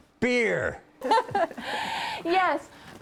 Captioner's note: laughing